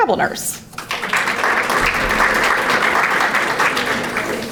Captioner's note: audience applauding